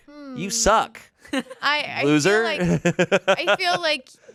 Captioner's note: laughs